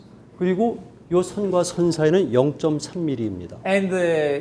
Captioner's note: speaking in Korean